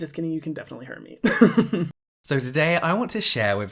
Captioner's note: laughs